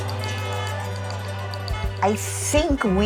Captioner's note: horns honking